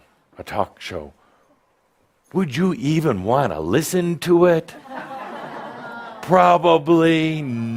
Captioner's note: some laughter